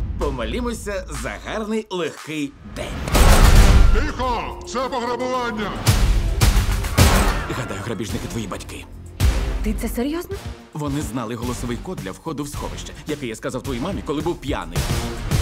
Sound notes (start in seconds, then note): 3.0 gunshots; 3.6 distorted voice; 5.4 dramatic music playing